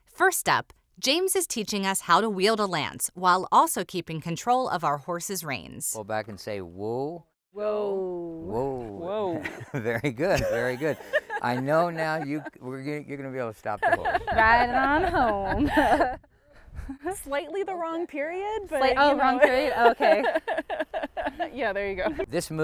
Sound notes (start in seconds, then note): 9.4 chuckles; 13.7 laughter; 19.4 laughter